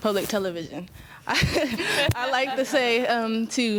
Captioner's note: students chuckling